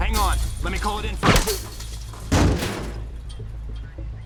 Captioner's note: gun fires